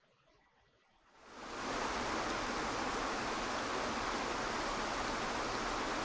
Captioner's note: waterfall crashing